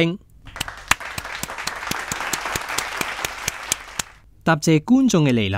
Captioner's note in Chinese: 拍手